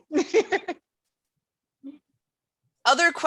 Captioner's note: laughs